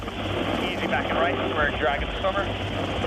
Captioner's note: man Over Radio